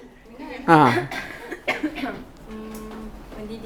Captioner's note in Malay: ketawa